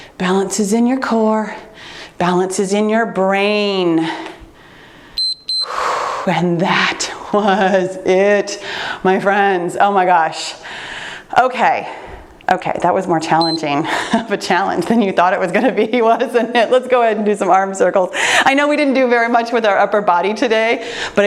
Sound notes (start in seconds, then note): 4.0 breathes deeply; 5.1 timer beeps; 13.4 timer beeps